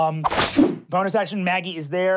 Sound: whipping

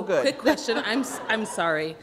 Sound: laughter

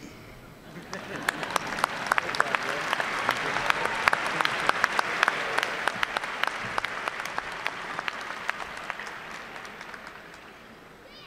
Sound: applause

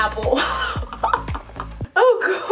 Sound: laughs

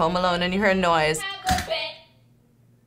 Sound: object clatters

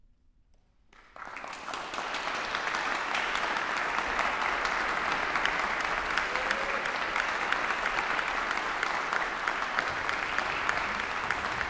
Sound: applaudissements

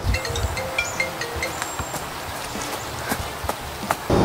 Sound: cell phone rings

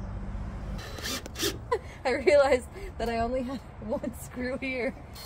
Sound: laughs

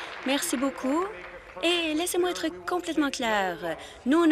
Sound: applause

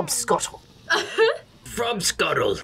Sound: laughs

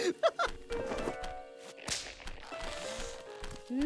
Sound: laughing

